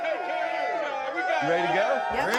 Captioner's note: crew cheers